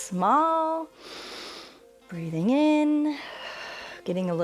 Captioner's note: inhales; exhales